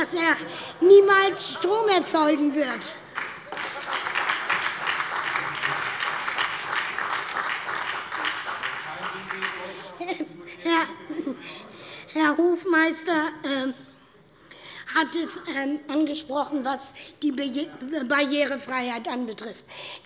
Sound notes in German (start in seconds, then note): 3.0 Heiterkeit und Beifall bei der SPD und der LINKEN